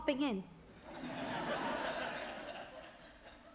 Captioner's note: audience laughs